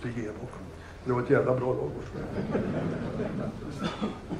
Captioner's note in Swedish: Skratt